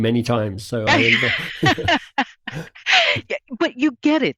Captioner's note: laughs